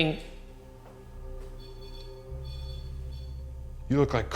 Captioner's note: eerie music; device beeping